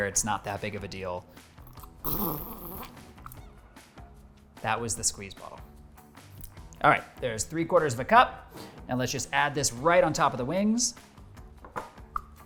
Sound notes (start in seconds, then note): 1.6 bottle squelches